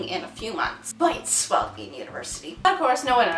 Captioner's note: unguarded sarcasm